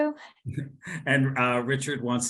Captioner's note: chuckles